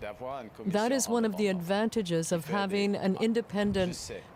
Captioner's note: speaking French